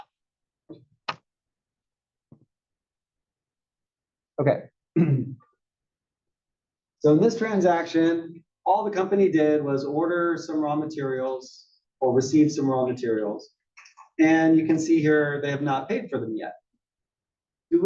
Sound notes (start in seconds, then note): 4.9 cough